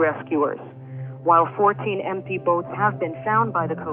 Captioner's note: archival news audio